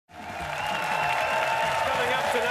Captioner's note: audience cheering